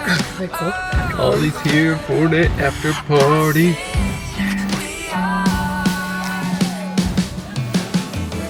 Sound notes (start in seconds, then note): 3.7 outro music; 4.3 whispers; 5.0 outro music